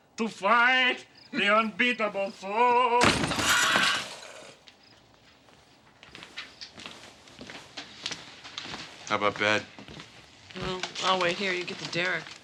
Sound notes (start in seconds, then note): 1.3 yells; 3.0 crash